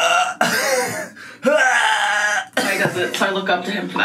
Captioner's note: laughs; groans